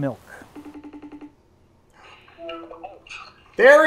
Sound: phone ringing

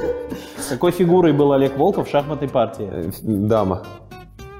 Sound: voice-over

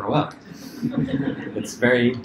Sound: laughter

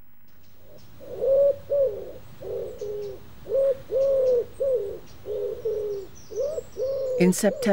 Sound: cuckoo, cuckoo

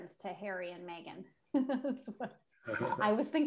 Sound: laughs

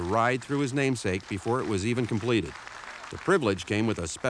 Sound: audience applauding

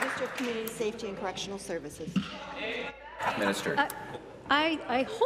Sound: applause

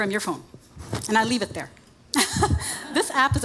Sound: chuckles

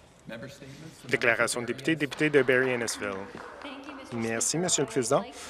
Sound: some Applause

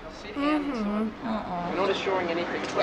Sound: humming; groaning

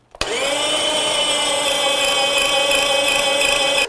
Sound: grater whirring

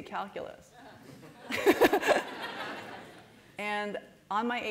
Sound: laughter

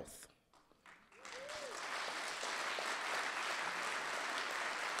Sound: audience applauding

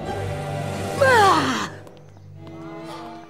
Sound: exhales

